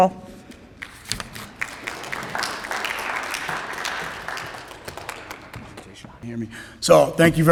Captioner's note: applause